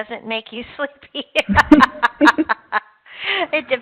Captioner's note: laughing